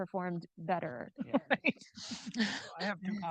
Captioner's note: laughs